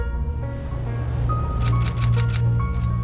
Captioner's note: waves roaring; camera shutter clicks